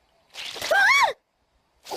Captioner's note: yelps